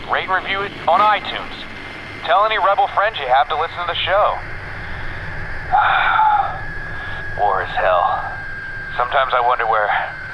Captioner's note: sighs